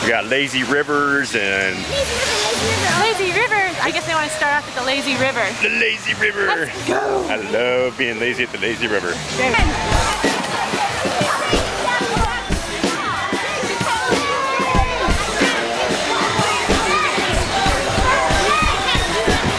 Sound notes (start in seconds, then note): 10.3 upbeat music; 12.8 yelling in background; 16.7 upbeat music